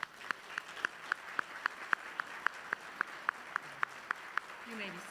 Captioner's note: applause